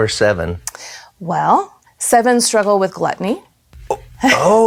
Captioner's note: laughs